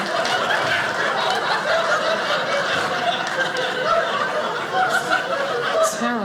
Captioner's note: audience laughing